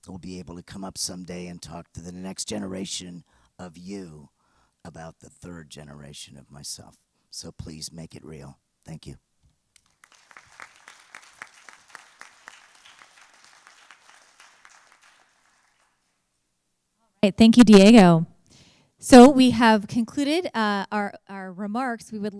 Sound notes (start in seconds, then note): 15.1 applause